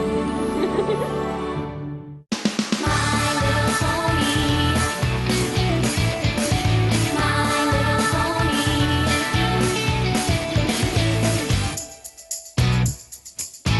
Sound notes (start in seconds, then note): 0.4 giggle